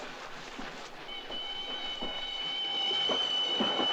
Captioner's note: train whistle blowing